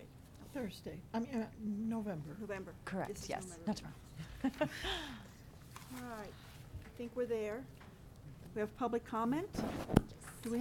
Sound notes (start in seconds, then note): 4.2 laughing